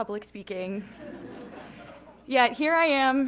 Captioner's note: audience laughing